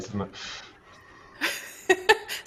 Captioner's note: breathes deeply; laughs